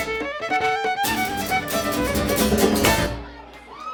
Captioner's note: applause